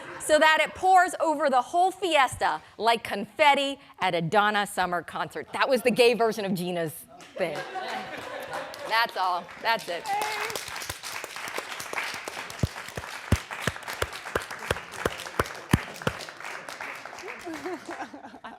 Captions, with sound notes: so that it pours over the whole fiesta like confetti at a Donna Summer concert. That was the gay version of Gena's thing. That's all, that's it. (audience clapping)